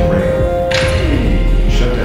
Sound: announcement Chime; stabilisation ring powers down

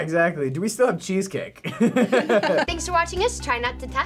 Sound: chuckles

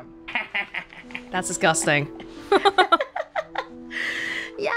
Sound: chuckles

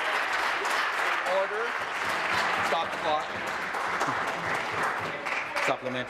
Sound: applause

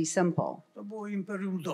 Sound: foreign language

